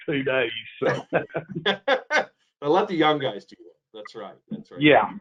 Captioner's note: laughs